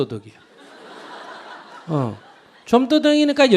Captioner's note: audience Laughter